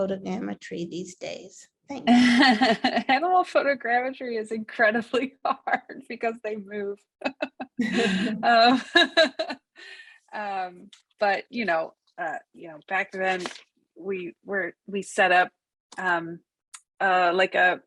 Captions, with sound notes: for animal photogrammetry these days? Thanks. - Animal photogrammetry is incredibly hard because they move. (laughs) But back then we set up like a moveable studio